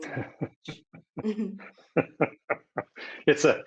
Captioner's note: laughter